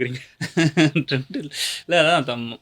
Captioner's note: laughs